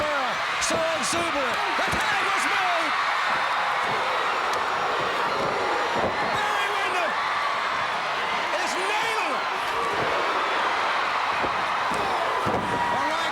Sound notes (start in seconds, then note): 2.7 crowd cheering; 10.0 crowd cheering